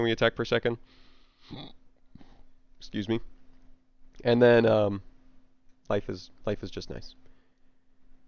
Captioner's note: hiccup